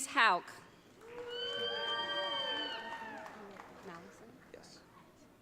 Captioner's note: audience cheering